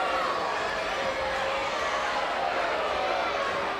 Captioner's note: crowd cheering